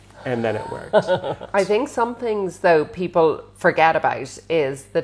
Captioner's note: laughs